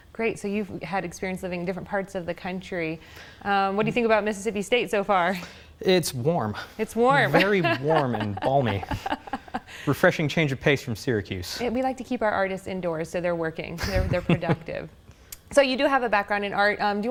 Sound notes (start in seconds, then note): 7.4 laughs